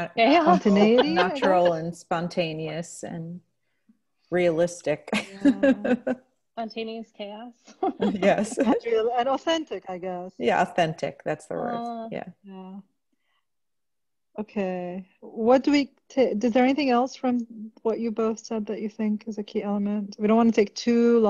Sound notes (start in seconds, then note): 4.5 laughter